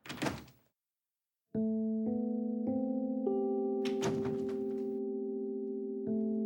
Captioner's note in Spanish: Ruido al abrir la puerta